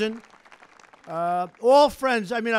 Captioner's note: applause